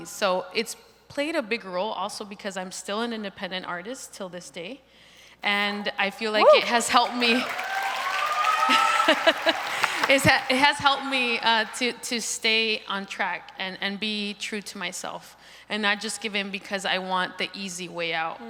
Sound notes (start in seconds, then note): 6.4 crowd applauds